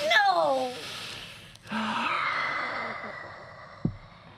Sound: heavy exhale

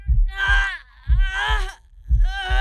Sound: cries out in pain

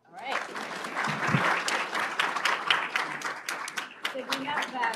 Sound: applause

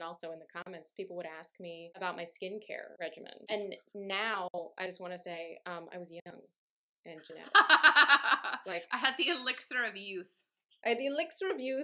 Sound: laughter

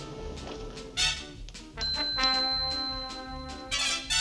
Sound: bell dings

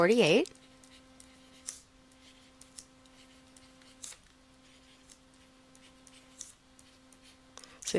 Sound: silence

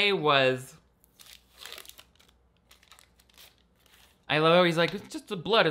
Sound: wrapper crinkling

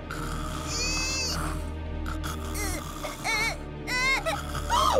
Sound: snoring; whining; gasping

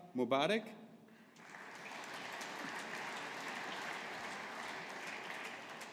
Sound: audience applauding

